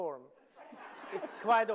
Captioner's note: audience laughing